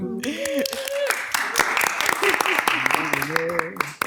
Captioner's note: audience applauds